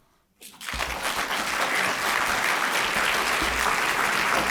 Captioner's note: applause